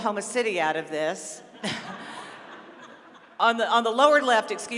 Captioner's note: laughter